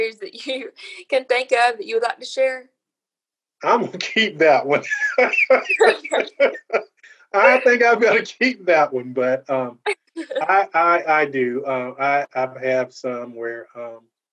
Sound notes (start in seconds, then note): 0.7 giggles; 3.8 laughter